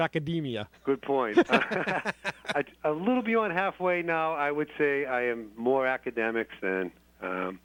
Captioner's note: laughter